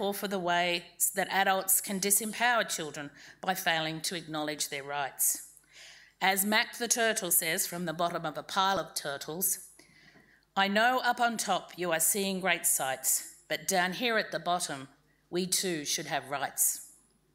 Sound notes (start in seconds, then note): none